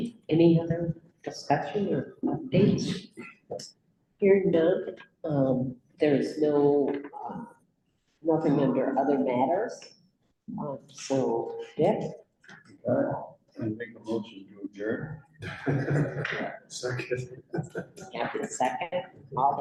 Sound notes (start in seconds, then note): 15.5 laughter; 16.7 chuckles